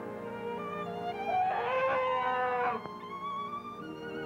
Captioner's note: growls